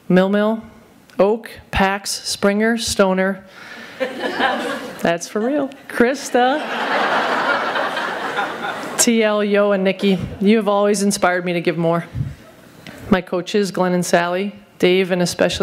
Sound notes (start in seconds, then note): 3.7 soft laughter